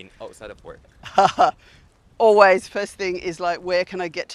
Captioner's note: chuckles